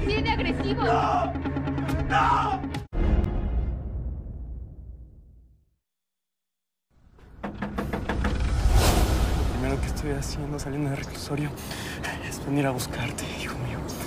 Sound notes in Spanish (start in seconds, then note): 7.3 llaman a la puerta